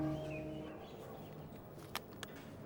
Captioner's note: knocking